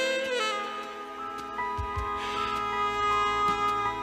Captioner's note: inhales cigarette'